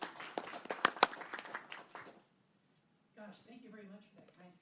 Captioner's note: applause